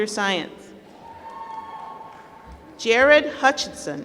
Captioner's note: applause